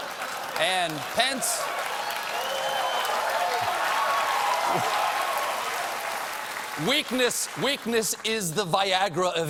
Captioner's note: applause